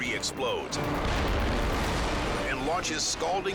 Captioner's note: explosion booming